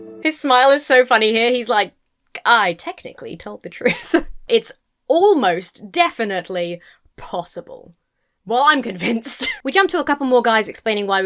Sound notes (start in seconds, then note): 3.8 laughs; 9.2 chuckles